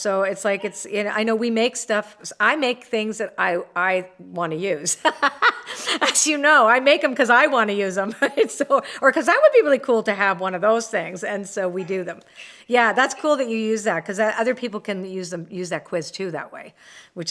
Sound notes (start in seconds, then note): 5.0 laughs